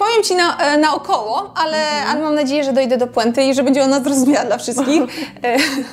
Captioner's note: laugh